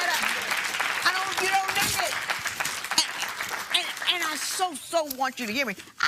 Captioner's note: applause